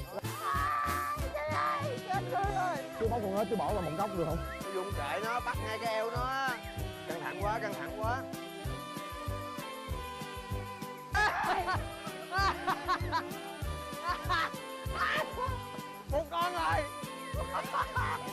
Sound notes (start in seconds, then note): 11.1 screaming; 11.1 laughing